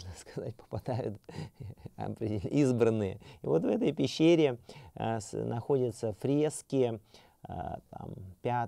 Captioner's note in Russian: смеется